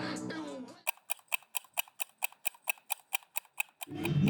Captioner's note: ticking